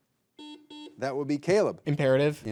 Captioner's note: buzzer buzzing